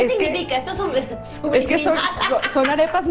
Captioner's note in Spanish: risas